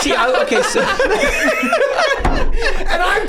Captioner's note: gang laughing